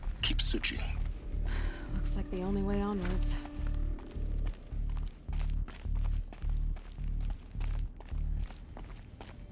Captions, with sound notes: ...keep searching. (sigh) Looks like the only way onwards.